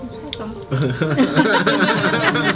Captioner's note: laughing